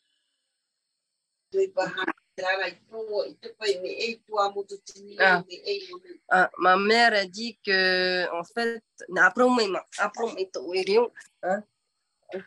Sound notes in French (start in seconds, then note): 1.5 et sa mère parlent paumotu